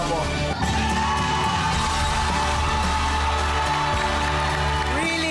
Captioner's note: audience cheering, clapping